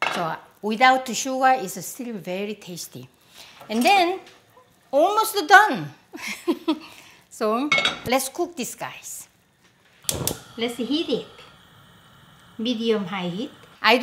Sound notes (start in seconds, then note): 6.2 chuckles